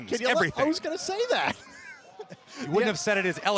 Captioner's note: laughter